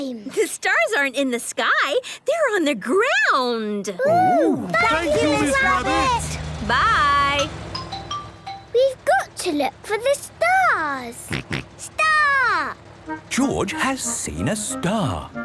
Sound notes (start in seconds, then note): 11.3 snort